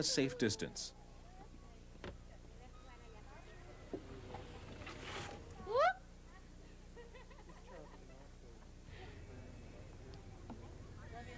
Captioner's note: people talking